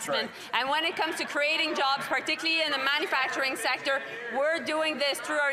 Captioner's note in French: voix de l'interprète